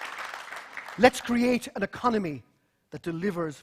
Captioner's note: applause